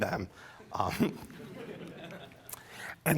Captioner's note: laughter